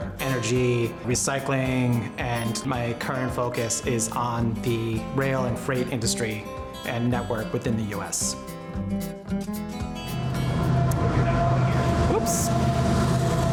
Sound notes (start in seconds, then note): 10.0 train engine roaring